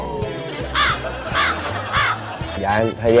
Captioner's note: caw